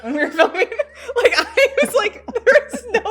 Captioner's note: both laugh